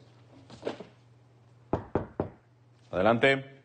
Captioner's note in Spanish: Toques en la puerta